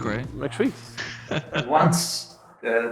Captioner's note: laughing